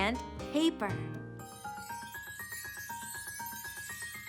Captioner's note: chimes ring